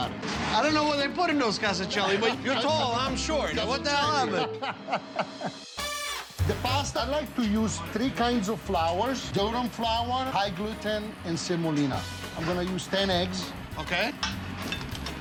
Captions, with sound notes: - I don't know what they put in those casoncelli, but you're tall, I'm short. What the hell happened? (Chef laughing) The pasta. - I like to use three kinds of flours. Durum flour, high gluten, and semolina. I'm gonna use 10 eggs. - Okay.